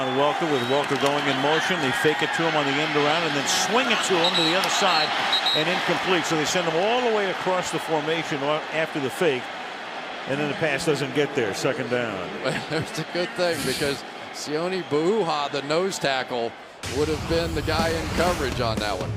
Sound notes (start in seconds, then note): 12.4 chuckles